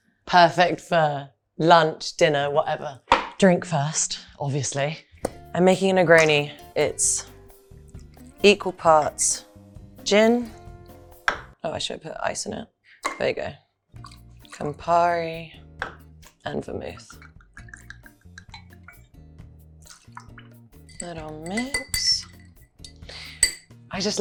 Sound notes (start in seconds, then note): 19.8 liquid splashing; 20.8 spoon clinking